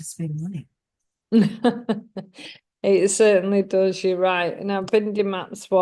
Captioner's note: laughs